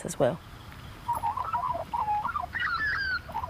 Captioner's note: birds chirp